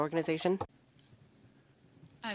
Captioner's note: speaking French